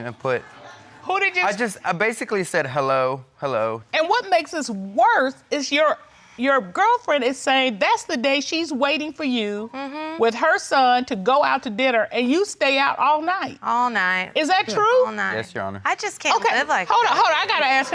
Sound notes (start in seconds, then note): none